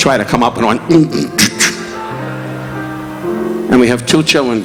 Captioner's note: Don groaning